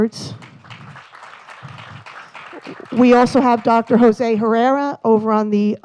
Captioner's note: applause